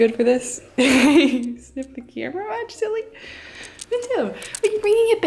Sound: laughs

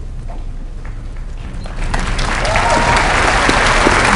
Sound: applause

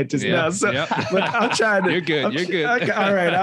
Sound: all laughing

